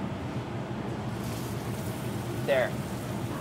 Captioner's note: sizzling